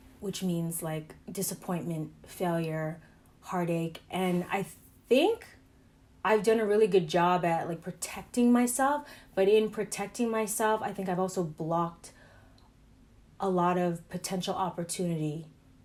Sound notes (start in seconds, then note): none